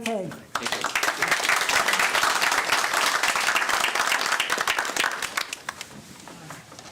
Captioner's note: applause